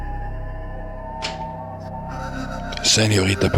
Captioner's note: door opens; door closes